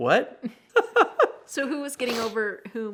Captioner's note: laughs